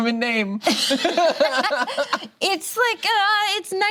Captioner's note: laughing